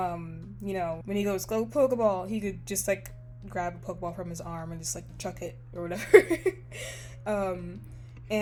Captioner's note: laughs